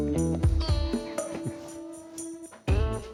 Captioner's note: laughs